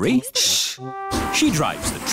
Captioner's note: chattering